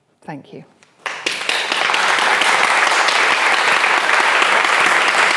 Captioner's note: audience applauding